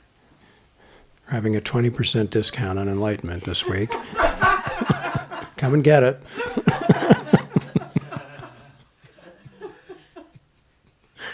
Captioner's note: laughter